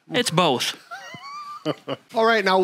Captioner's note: laughing